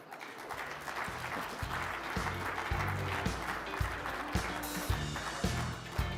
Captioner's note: audience applauding; upbeat music